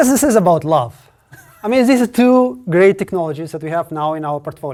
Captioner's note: laugh